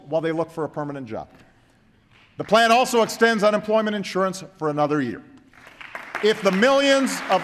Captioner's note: applause